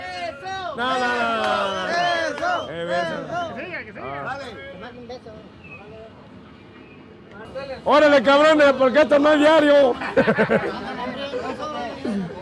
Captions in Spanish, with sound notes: Beso, besos. El que sigue Órale cabrones, porque de esto no hay diario (risas)